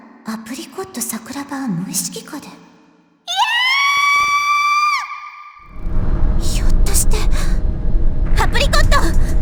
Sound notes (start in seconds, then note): 3.4 panicked scream